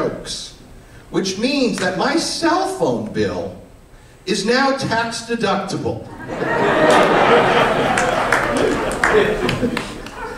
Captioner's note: laughter